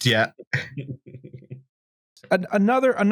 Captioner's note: chuckles